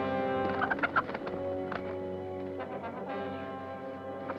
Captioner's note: bird squawking